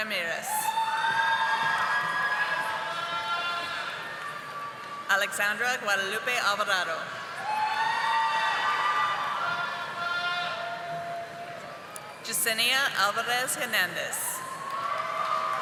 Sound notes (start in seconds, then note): 1.0 audience applauding; 10.2 audience applauding